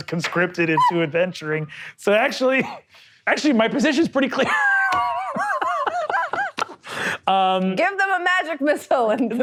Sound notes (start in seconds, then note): 4.4 laughs